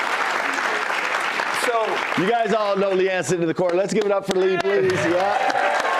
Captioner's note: cheers and applause